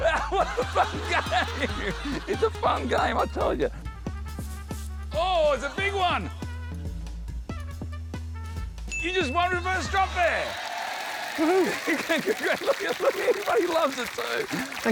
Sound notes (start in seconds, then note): 11.2 laughs